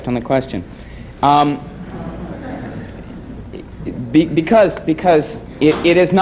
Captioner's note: stammers